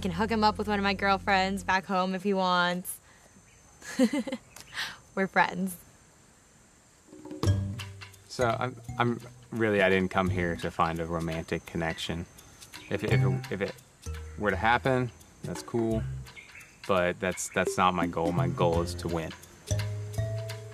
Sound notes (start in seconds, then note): 13.2 stammering